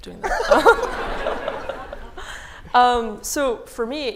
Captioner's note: laughter